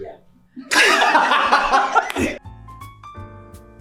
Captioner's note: all laughing; piano music